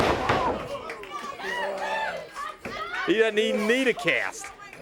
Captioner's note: crowd cheering